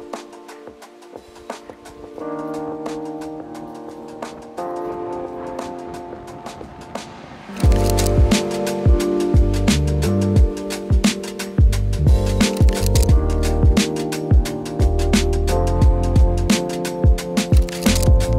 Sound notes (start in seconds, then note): 0.6 soft music; 7.6 camera clicking